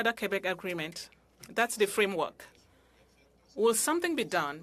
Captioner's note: speaking french